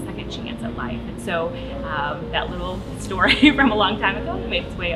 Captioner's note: laughing